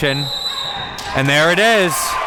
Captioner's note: whistle blows